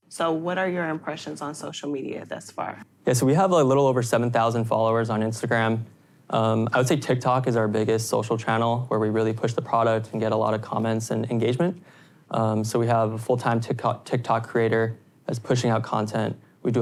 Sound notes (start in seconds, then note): none